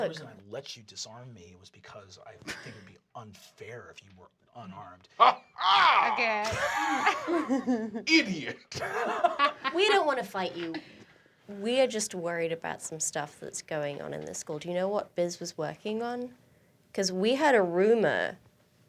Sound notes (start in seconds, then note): 0.2 deep voice; 5.2 laughs; 5.6 laughter